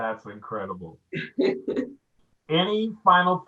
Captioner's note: laughing